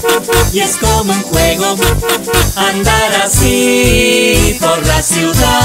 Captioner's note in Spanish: Sonido de bocina